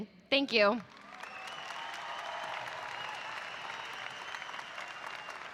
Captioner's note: audience applauding